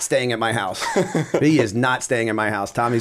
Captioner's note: laughter